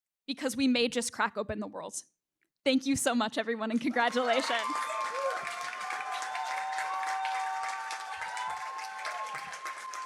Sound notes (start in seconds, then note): 3.7 applause